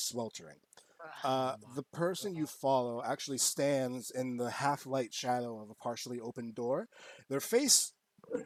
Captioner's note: groans